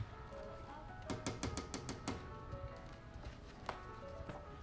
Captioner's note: door knocking; lively piano music